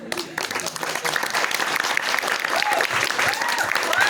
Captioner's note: applause